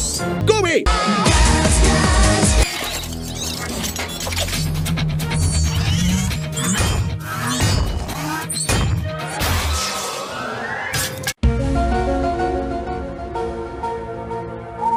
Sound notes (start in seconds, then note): 6.6 slam!; 8.7 slam